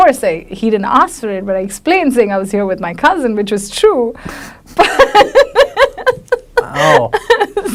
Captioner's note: laughs